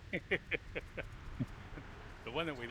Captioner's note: laughing